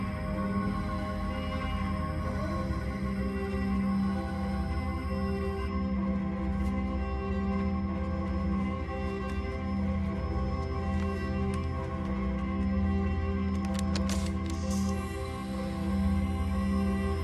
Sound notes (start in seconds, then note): 13.9 connector hisses